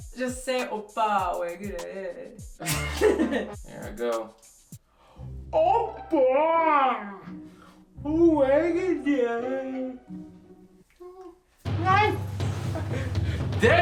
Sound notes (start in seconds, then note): 2.6 both laugh; 2.8 comical music; 6.2 speaks in Korean; 8.6 comical music; 11.6 explosion